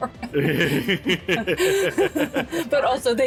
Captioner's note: laughter